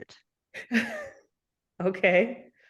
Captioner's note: chuckles